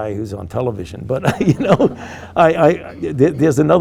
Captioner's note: group laughing